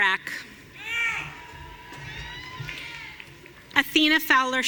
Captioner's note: audience cheering